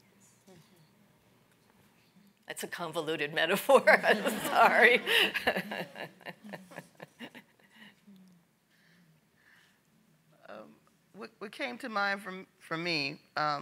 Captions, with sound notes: That's a convoluted metaphor, I'm sorry. (laughs) (audience laughs) - What came to mind for me